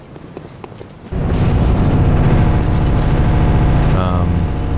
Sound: loud rumble

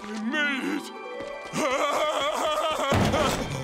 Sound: laughing

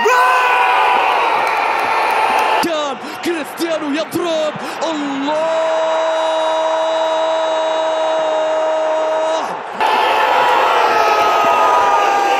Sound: clap

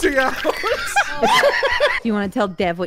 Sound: laughter

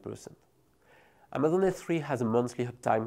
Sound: text whooshing

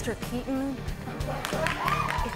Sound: laughter, clapping

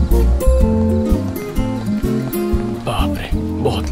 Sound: footsteps

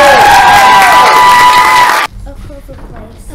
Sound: applause

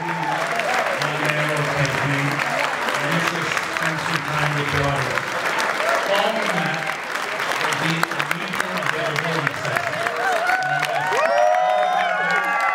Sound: people clapping and cheering

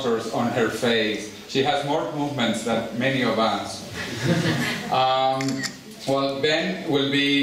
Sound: laughter

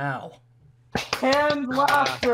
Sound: audience members applaud

